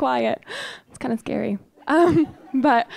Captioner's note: audience laughing